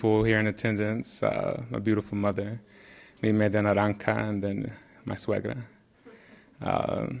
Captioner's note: speaking in Spanish